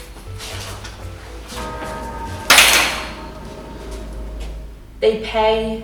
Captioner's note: bells tolling; door slamming